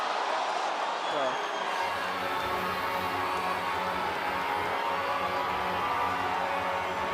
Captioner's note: crowd cheers